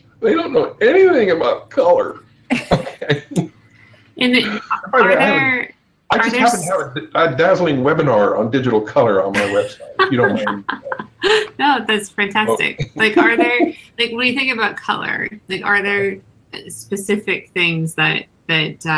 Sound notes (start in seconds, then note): 2.8 all laughing; 9.3 laughs